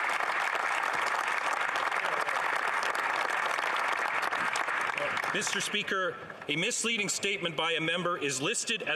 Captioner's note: some Applause